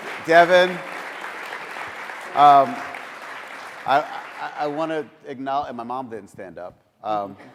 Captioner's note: applause